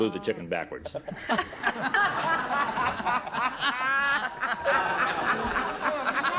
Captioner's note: laughing